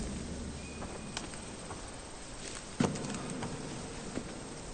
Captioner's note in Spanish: Trinos